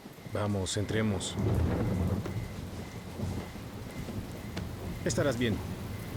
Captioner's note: loud thunder